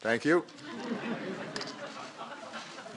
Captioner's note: laughter